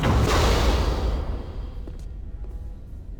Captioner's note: loud explosion